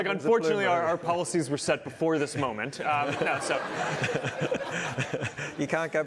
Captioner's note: laughter